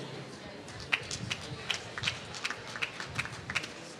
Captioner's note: applause